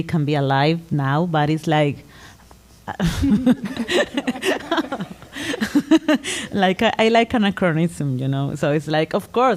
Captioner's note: laughter